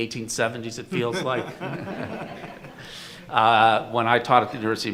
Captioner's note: audience laughing